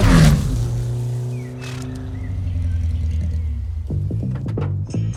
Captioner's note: crickets chirp & wind blows